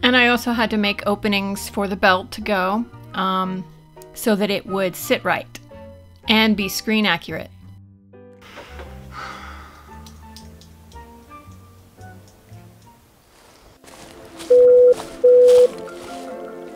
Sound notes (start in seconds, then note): 15.2 beep Beep